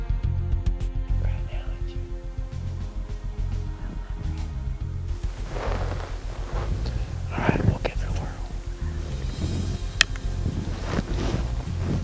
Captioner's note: whispering; whispering